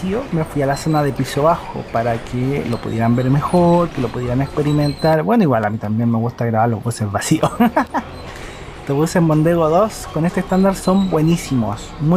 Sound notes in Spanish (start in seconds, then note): 7.4 risas